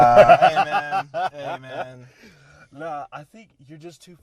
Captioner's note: laughter